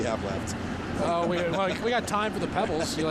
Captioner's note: laughter